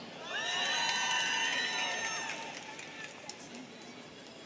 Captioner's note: students cheering